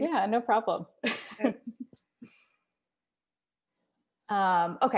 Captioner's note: laughs